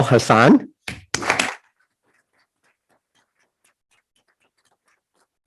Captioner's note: group applauding